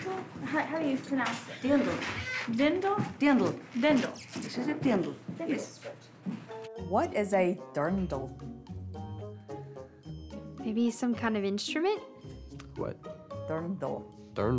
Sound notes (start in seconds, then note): none